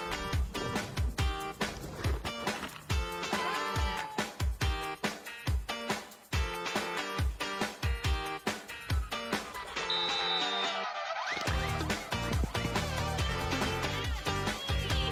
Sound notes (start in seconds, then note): 0.2 group shouting; 0.2 upbeat music continues; 9.3 upbeat music continues; 9.7 whistle blowing